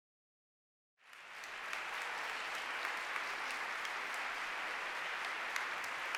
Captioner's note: applause